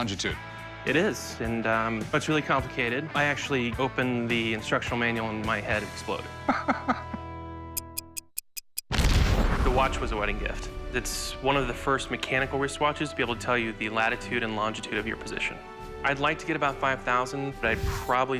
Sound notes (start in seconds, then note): 6.5 laughs; 7.8 ticking